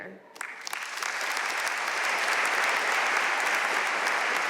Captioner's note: audience applauding